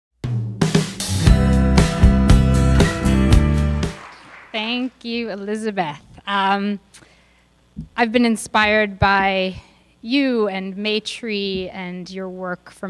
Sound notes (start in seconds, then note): 0.7 upbeat music; 2.7 audience clapping